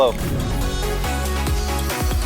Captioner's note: air whooshing; upbeat music